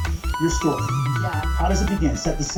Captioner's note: on TV